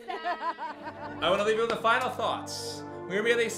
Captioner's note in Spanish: público se ríe